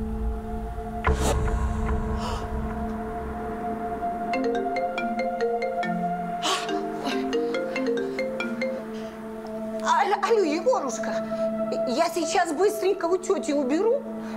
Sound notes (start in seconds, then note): 1.6 moans; 4.2 phone rings